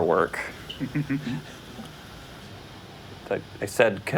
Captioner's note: laughs